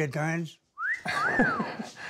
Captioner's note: wolf whistle; laughs